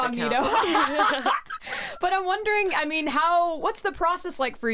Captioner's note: laughs